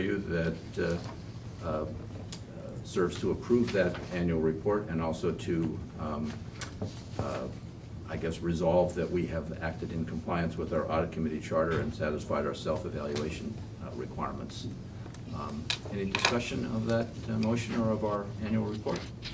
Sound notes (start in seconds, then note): none